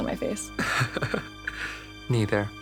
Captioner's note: Jonas laughs